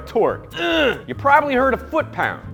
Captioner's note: grunts